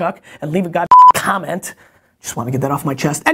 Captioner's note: beeps